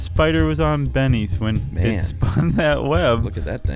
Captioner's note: laughs